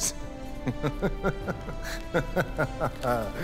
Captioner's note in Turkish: Gülme sesi